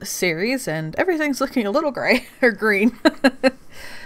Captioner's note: laughs